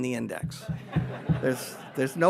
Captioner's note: audience laughs